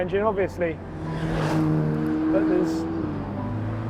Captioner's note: car engine revving